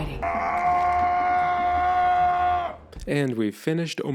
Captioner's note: Patriarch screams